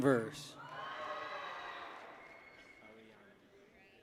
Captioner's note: people cheer